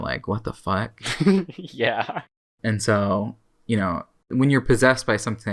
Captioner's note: laughs